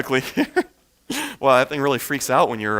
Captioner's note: chuckles